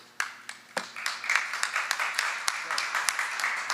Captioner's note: applause